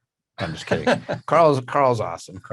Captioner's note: laughs